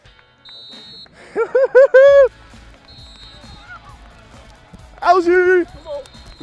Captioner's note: laughing